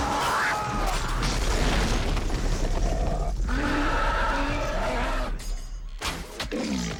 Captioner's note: growling